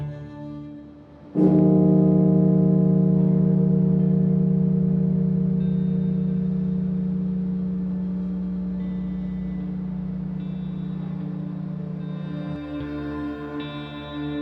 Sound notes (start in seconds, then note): 1.5 bell tolling; 3.5 somber music